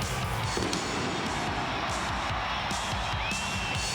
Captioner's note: explosives blasting; crowd cheering